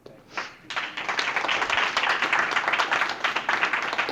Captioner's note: audience applauding